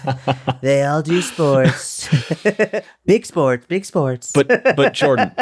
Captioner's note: chuckle; chuckle